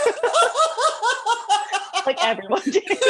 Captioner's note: laughter